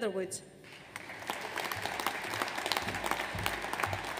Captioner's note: audience applauds